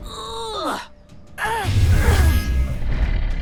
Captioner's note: Jae grunts